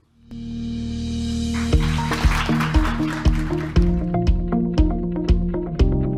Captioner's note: lively music; audience clapping